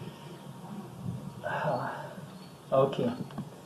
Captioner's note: sighs